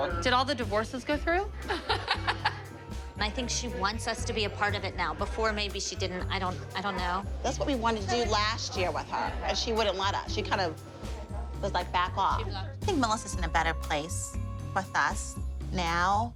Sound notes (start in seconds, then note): 1.6 laughs